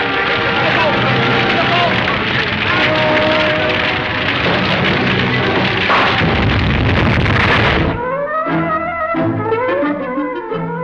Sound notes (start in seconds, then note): 3.1 dramatic music; 5.2 booming; 7.9 energetic music